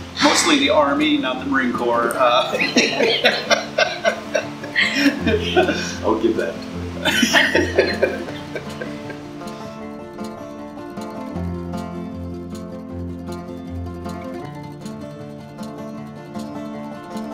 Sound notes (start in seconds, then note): 2.4 laughter